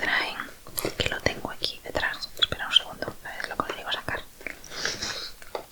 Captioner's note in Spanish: resoplido